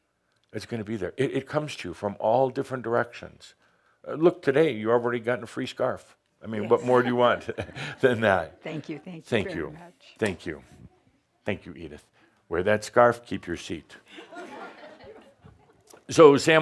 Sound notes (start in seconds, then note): 8.6 Adamus chuckles; 13.9 more chuckles